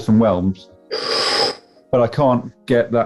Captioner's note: sharp intake of breath